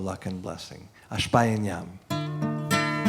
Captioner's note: non-english speech; strumming guitar